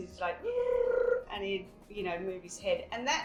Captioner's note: high pitched purring